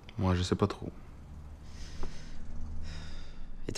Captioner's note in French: soupir